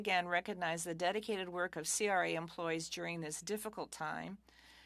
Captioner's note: speaking French